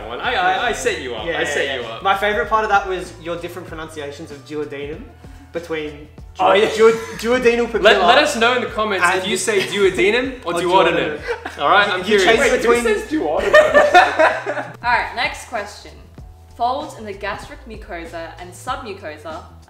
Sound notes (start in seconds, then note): 13.2 laughs